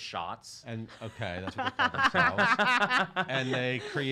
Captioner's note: laughing